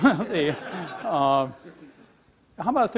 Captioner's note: laughing